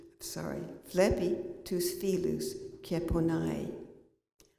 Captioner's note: non-english speech